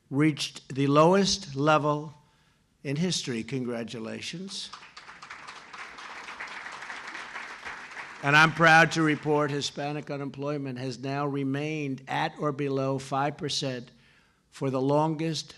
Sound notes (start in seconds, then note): 4.6 applause